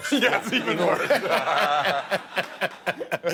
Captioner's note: laughing